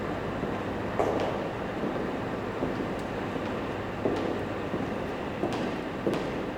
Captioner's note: echoing footsteps